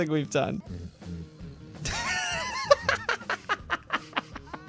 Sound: laughter

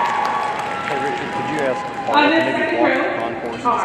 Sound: audience cheering and clapping; people chattering indistinctly

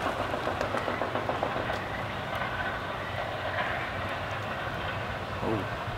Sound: cranking noises in background

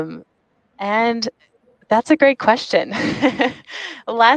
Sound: laughs

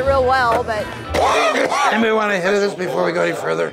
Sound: coughing

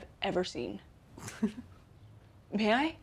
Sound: chuckling

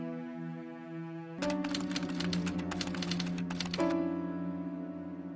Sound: typewriter sounds

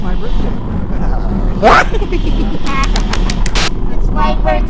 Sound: laughing and clapping

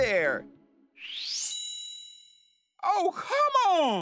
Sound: shimmering

